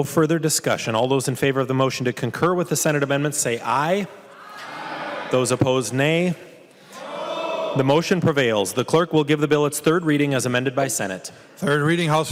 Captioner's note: chorus of ayes